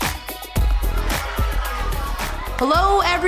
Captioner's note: campers excitedly chattering